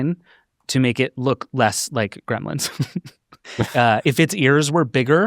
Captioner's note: laughs